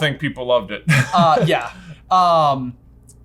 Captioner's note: laughing